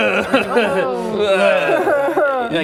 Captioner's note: collective groans; uncomfortably laughs